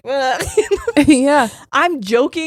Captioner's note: laughing